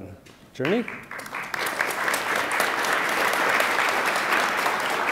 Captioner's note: attendees applaud